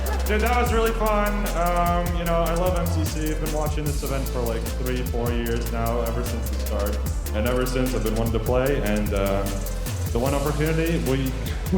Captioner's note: cheers and applause